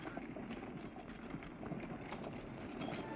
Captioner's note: horses trotting